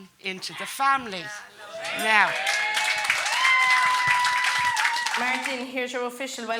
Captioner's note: guests applauding and cheering